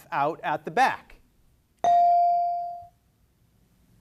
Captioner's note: beep